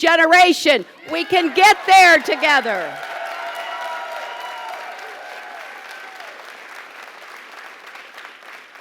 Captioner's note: applause